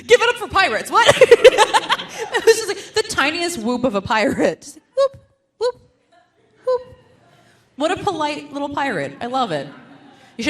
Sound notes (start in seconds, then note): 1.0 laughs; 5.1 humming